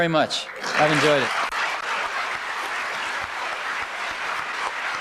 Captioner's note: applause